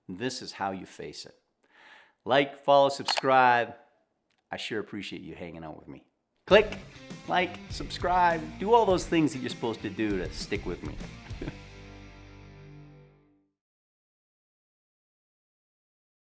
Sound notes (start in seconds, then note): 3.0 computer key clicking; 11.3 chuckling